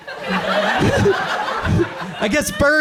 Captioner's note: audience laughs